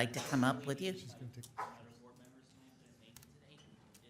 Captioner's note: murmurs